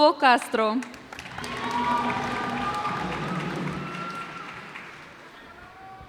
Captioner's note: cheers and applause